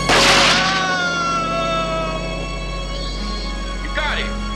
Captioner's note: shooter screaming